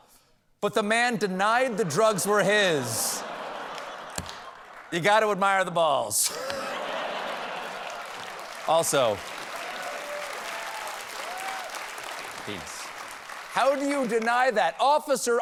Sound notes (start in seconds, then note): 6.2 laughter